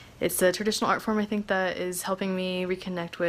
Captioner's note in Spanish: HABLA EN INGLéS